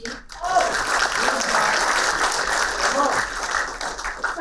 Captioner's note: applauding